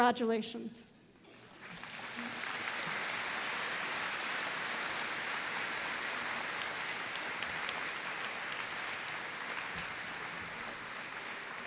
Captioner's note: applause